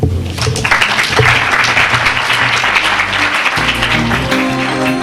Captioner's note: audience clapping; upbeat music